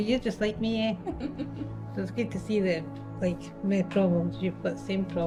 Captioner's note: laughing together